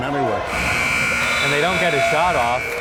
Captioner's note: timer buzzes